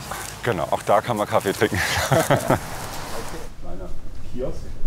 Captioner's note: he laughs